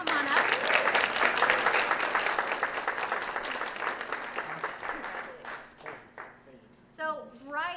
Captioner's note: applause